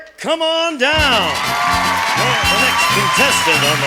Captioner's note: audience cheering; cheerful upbeat music